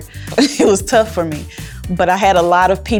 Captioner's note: laughs